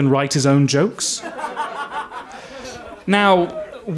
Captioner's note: audience laughs